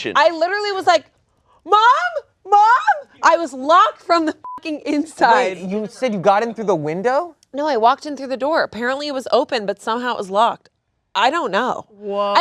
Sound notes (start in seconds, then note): 4.4 beep